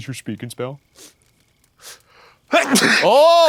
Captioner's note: sniffs; sneezes